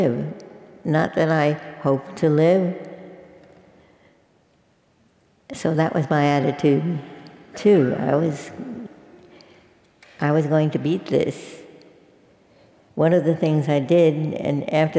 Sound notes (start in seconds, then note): none